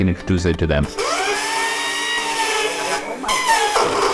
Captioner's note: blender whirring